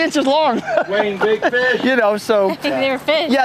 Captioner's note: laughter